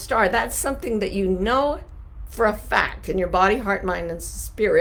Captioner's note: none